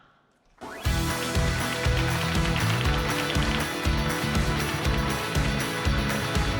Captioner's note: upbeat music; audience claps